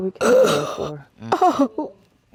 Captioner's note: sobbing